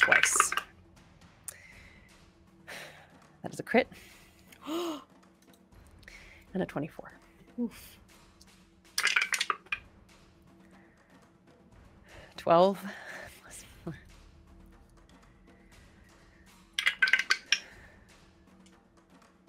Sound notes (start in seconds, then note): 0.0 dice clatter; 4.5 sighs; 4.6 player gasps; 9.0 dice clatter; 16.8 dice clatter